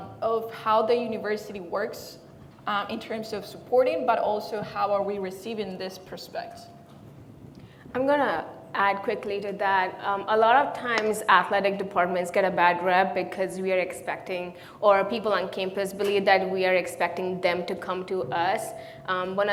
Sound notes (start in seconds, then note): none